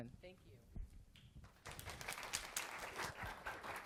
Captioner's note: applause